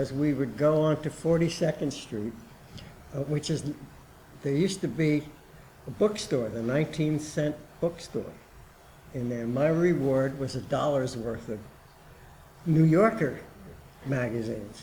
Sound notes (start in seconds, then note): none